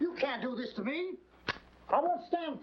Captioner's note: match striking